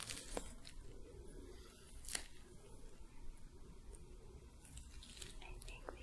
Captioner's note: soft brushing, sticky sounds